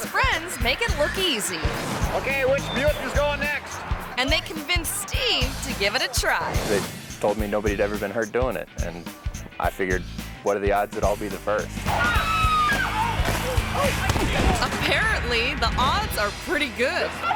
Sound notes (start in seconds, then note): 11.8 person screams; 14.0 thuds